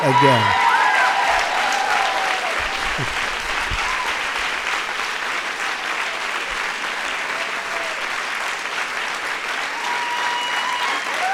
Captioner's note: laughter and applause